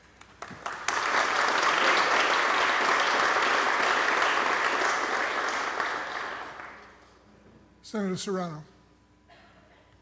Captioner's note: applause